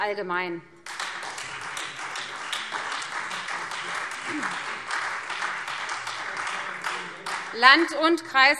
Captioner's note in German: Beifall Freie Demokraten und vereinzelt SPD